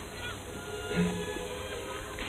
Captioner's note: ahem